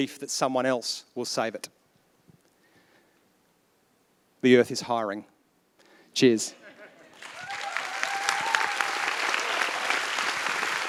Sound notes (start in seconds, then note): 7.0 applause